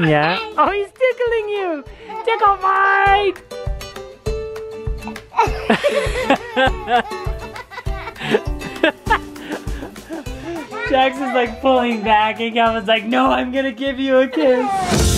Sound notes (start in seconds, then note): 5.0 laughing